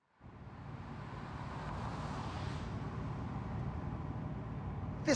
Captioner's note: car engines revving